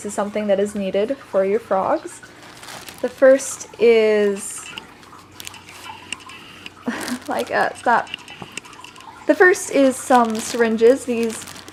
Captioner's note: laughing